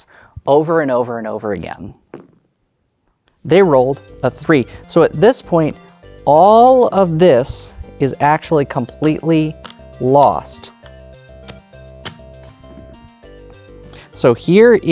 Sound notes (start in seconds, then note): 2.1 dice rolling; 4.1 new song begins; 10.7 tokens clattering